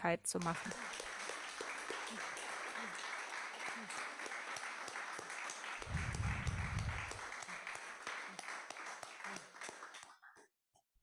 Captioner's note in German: Beifall